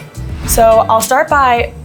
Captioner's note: instructions whooshing